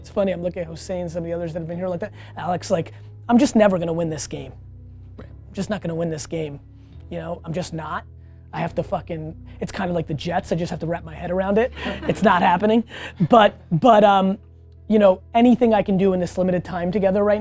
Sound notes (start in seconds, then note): 11.7 team laughing